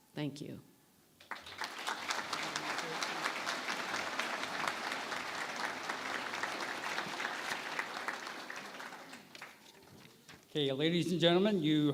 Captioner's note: applause